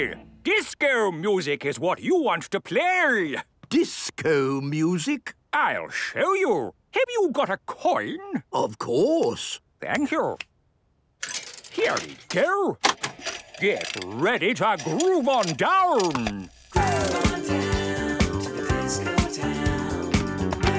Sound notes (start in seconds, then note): 12.7 clicks, whirring; 16.7 disco music plays